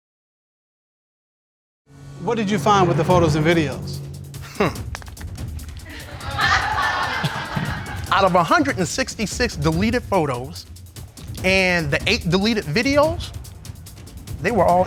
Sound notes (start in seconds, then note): 4.4 scoffs; 5.8 audience laughing